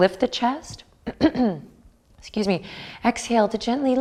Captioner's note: clears throat